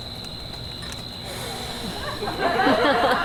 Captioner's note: Bottom exhales dramatically; audience laughs